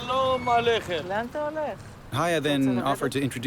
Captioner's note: speaks in hebrew